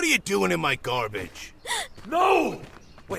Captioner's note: sharp gasp